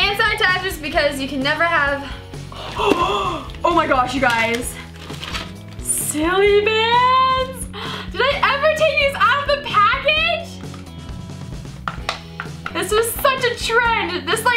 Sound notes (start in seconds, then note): 2.1 gasps; 10.5 upbeat music